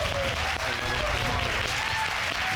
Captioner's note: applause